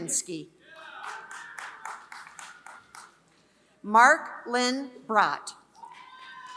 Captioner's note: applause; applause